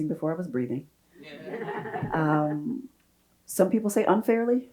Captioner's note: audience laughs